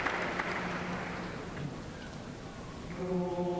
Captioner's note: cheers and applause